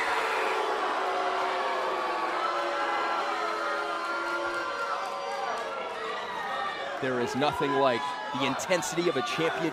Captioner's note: crowd cheering